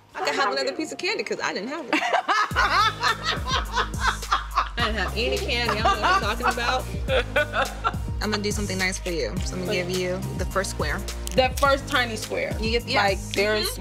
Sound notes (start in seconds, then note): 2.0 laughs